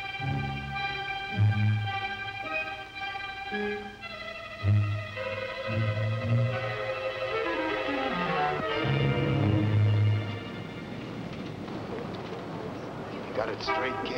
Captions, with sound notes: (busy street) - Got it straight kid?